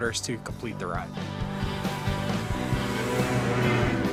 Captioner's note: engine roaring